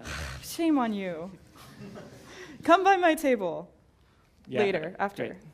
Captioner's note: laugh